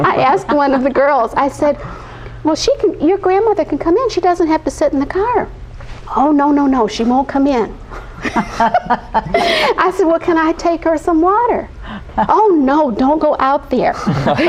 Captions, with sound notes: I asked one of the girls, I said, "Well, she can, "Your grandmother can come in. "She doesn't have to sit in the car." "Oh, no, no, no, she won't come in." (laughing) I said, "Well, can I take her some water?" "Oh, no, don't go out there."